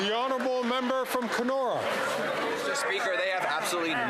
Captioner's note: applause